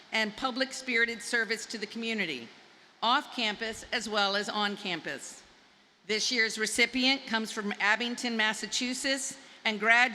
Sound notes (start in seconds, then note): none